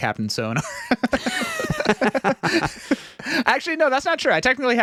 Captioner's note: laughing